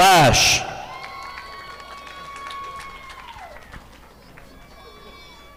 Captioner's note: audience applauding